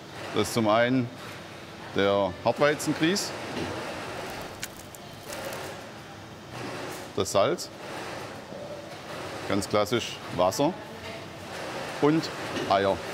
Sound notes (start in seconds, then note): 4.0 quiet babble of voices, rattling